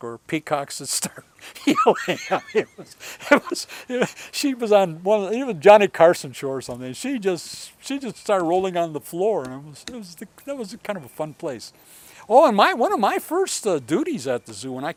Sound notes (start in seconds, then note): 1.0 laughing